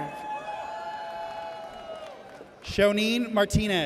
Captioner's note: audience cheers